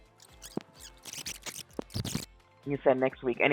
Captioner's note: audio fast forwards